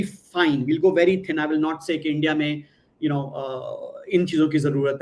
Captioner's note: non-english speech